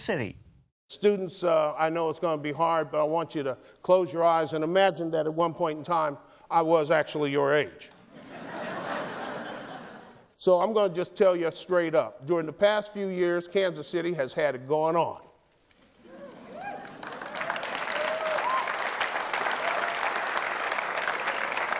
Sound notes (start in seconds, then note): 8.1 laughter; 18.6 applause